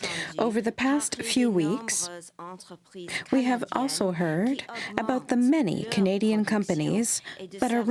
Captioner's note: speaking french